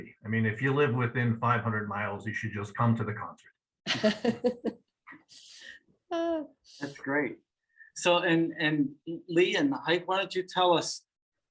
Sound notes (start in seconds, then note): 4.0 laughing